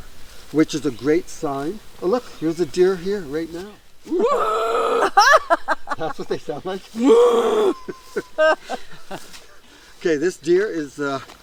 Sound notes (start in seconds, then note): 4.0 mimics groaning; 4.2 laughing